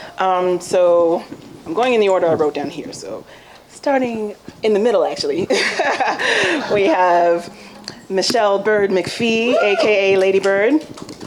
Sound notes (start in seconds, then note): 5.5 laughs